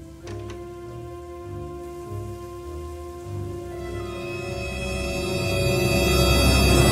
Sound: curtain closing; suspenseful music; door clicking

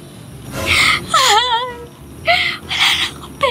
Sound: sobs

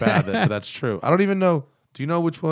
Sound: laughter

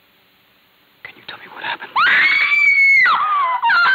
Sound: loud screaming

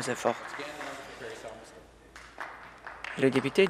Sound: cheering/Applause

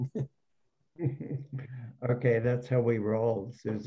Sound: laughs

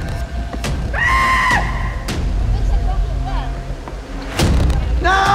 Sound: screams

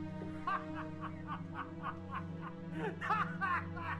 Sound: man laughing

